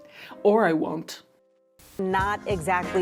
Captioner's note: static hisses